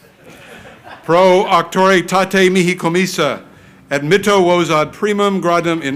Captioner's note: crowd laughing; speaks in foreign language